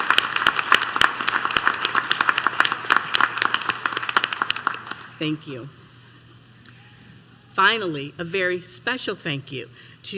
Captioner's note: applause